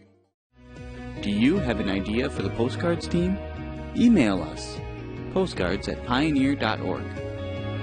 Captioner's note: voiceover